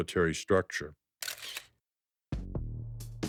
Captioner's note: camera shutter closing; soft drum music